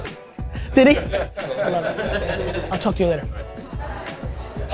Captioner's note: group laughter